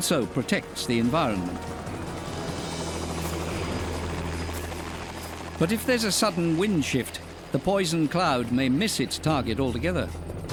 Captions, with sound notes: and so protects the environment. [helicopter motor rumbling] But if there's a sudden wind shift, the poison cloud may miss its target altogether.